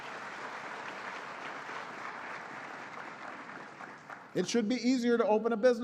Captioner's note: applause